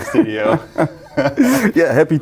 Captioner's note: both laughing